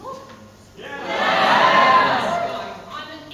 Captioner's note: audience say "yeah"